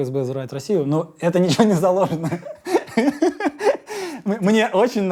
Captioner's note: laughs